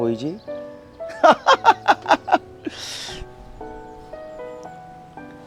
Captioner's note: laughing